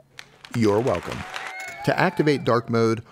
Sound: cheering

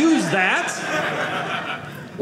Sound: audience laughing

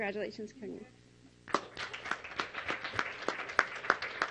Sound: clapping

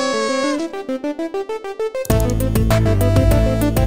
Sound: mouse clicking

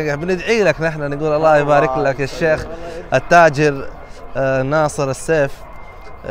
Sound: Arabic

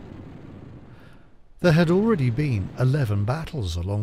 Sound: guns bang

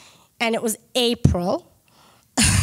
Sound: chuckles

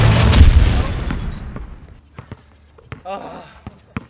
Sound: glass shattering

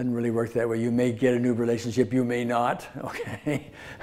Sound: laughs

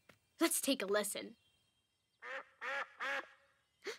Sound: quack

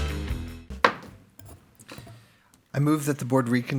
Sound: gavel pounds

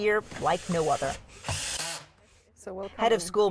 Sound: drilling sound

